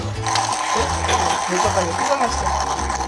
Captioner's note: grinding